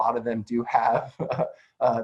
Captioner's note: chuckles